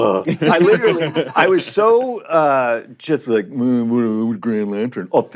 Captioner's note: grumbling